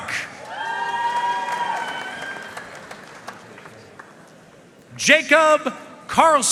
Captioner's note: audience cheering and applauding